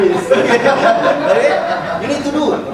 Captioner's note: audience laughing